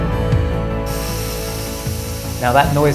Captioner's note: timer whining noise